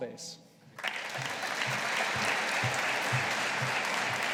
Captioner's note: audience applauding